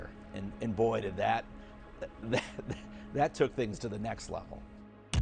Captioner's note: chuckles